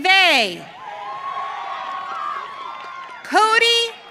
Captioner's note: audience cheering